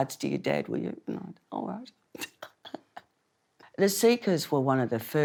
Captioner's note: laughs